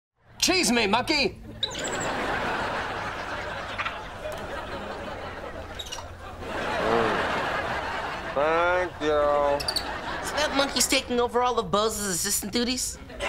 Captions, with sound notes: Cheese me monkey. [chattering] [chattering] [chattering] Mmm. Thank you. So that monkey's taking over all of Bose's assistant duties?